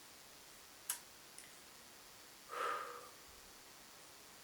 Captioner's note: breathes deep; clicks mouth